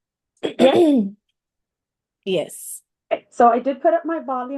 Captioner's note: cough